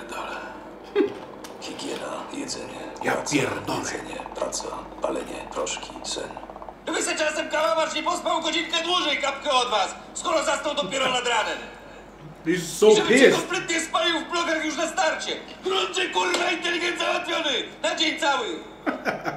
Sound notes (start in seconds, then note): 0.0 foreign language; 14.4 foreign language